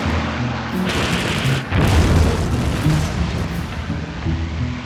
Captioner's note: dramatic music; bomb explodes; gentle music